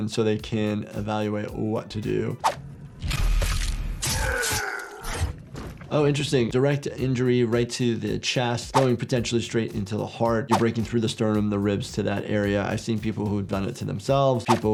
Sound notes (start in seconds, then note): 3.0 flesh squelching; 4.0 monster screams